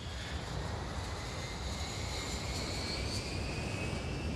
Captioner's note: plane engines whirring